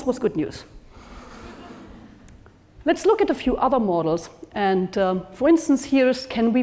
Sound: laugh

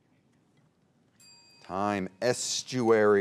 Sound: bell rings

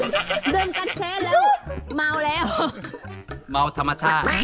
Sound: laughing

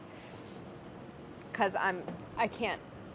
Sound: none

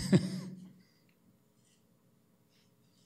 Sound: chuckling

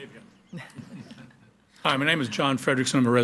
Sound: group chuckling

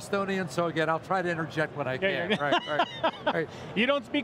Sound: laughs

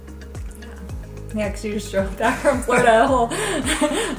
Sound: laughs

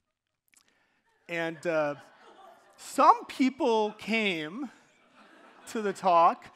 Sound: audience laughing

